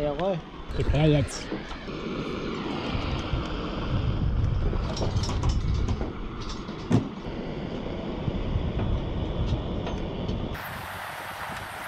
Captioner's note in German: brennerrauschen